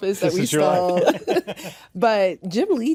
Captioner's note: all laughing